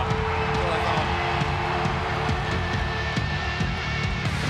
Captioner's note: audience cheering